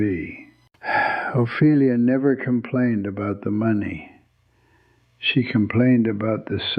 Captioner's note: sighs